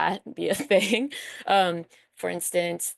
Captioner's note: chuckles